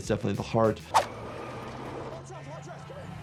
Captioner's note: vehicle revving; graphics swishing; tires screeching